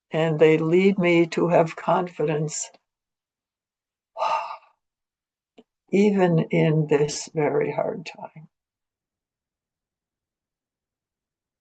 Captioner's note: sighs deeply